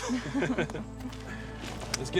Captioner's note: both laugh